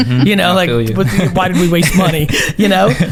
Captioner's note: laughs